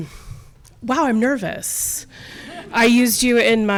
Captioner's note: audience laughing